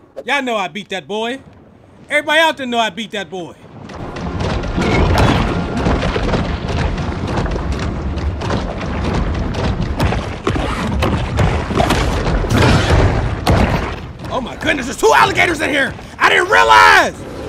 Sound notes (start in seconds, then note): 5.1 crashing; 8.0 water swooshing